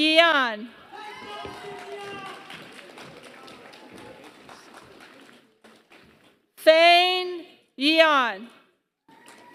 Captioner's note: applause; applause